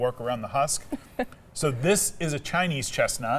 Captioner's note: laughing